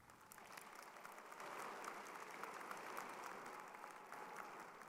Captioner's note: crowd applauding